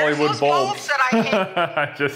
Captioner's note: laughing